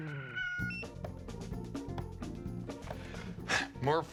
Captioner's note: ringing stops